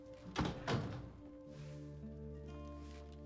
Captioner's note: door closes